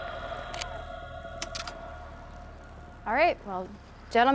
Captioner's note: transition clicks